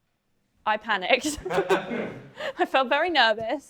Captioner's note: laughter